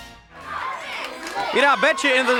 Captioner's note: audience chattering